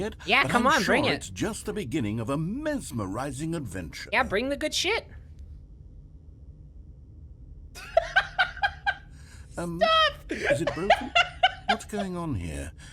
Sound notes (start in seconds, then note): 7.8 laughs at nothing; 9.7 laughing continues